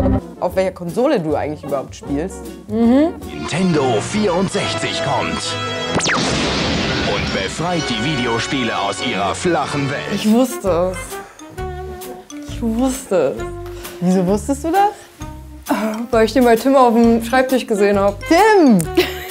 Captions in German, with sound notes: ... auf welcher Konsole du spielst. - Mhm. "Nintendo 64 kommt ..." (Lasergeräusche) "... und befreit die Videospiele aus ihrer flachen Welt." Ich wusste es. (Entspannte Musik) Ich wusste es. - Wieso wusstest du das? Weil ich die bei Tim auf dem Schreibtisch gesehen hab. - Tim!